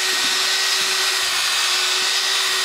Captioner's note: machine noise